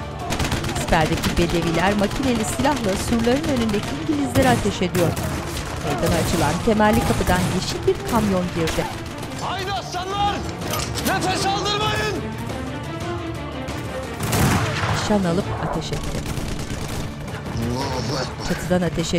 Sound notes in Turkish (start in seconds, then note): 4.5 Silah sesleri